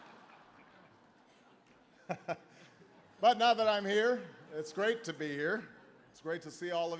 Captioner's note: laughter